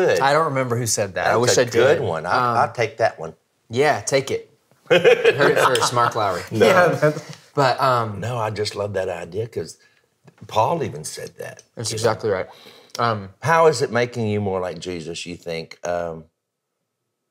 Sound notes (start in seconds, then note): 4.9 laughs